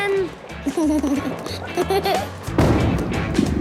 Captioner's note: giggles